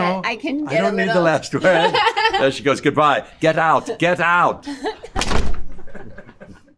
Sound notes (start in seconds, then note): 1.6 laughing; 5.1 door slams; 5.7 both laughing